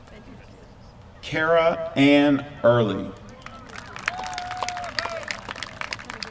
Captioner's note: applause